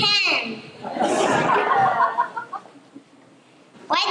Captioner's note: laughter